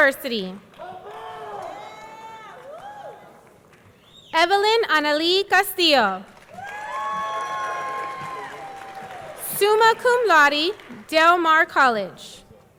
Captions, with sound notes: Baylor University. (people cheering) Evelyn Annalee Castillo. (audience cheering) (audience clapping) Summa Cum Laude, Del Mar College.